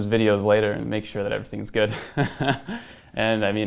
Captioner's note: laughs